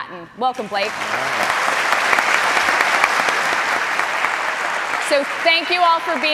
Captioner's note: applause